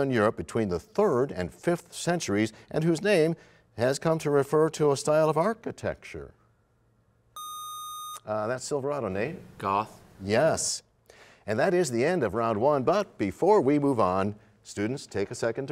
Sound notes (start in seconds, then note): none